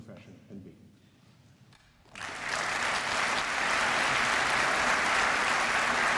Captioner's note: applause